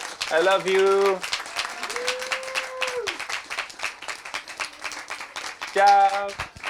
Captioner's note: applause